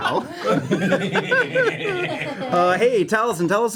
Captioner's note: laughter